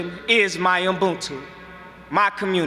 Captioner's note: speaking foreign language